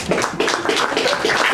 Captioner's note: applause